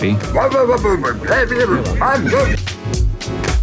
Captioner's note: old man grumbling sounds